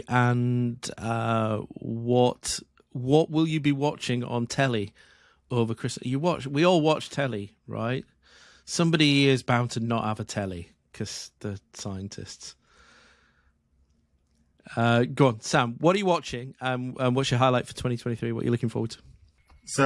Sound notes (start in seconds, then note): none